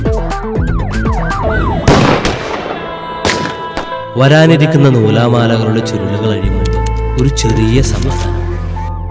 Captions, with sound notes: (gunshot) A temporary state of peace before unwinding of the troubles to come